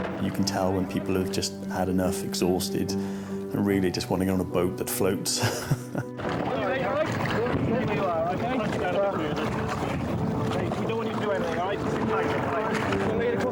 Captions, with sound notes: - You can tell when people have just had enough, exhausted and really just wanna get on a boat that floats. (chuckles) (soft music) - When you're ready, right? - One, two. - There we are, okay? - Much better. We don't want you to do anything, right? Sit tight.